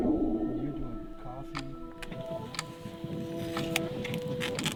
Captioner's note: clock ticking